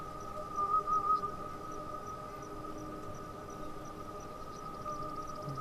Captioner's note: insects chirping